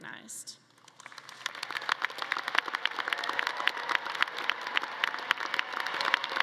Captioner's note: all clapping; audience cheering